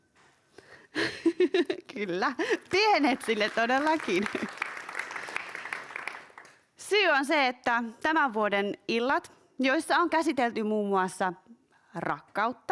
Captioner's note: aplodeja